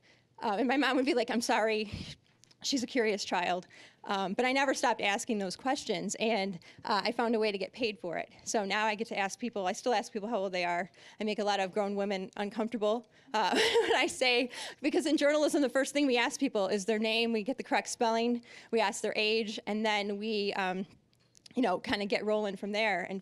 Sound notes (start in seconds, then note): 13.5 laughing